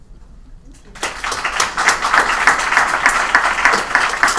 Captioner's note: applause